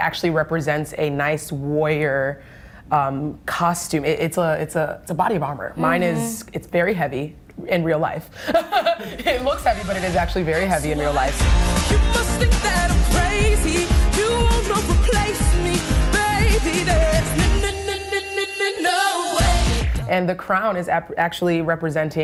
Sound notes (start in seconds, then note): 8.5 laughs